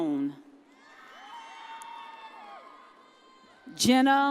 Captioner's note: audience cheers